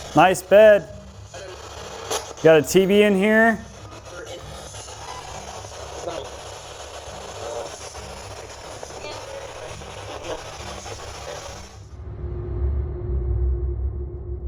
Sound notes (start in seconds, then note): 4.4 static; 11.9 eerie music